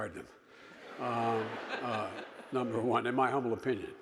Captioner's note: audience laughing